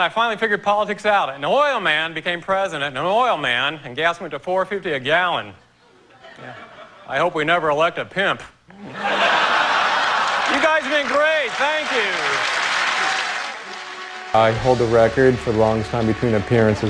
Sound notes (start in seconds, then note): 6.1 laughter